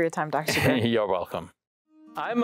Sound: chuckles

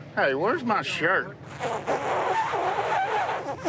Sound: nose blowing sound

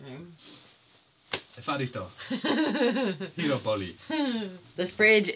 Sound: speaks in a foreign language

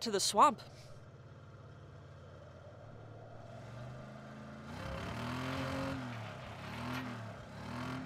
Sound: distant vehicle engine

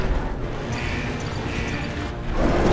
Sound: beeping

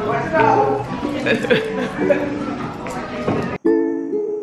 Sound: laughs; upbeat music

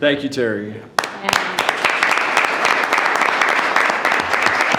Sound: all clapping

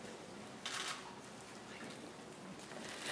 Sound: camera shutter clicks

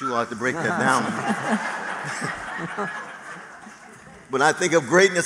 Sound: laughter

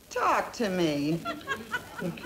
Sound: background laughter

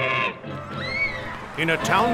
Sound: roar; woman screaming

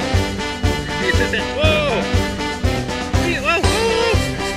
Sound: murmurs

